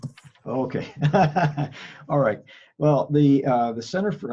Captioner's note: laughs